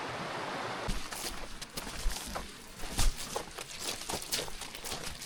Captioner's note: water splashing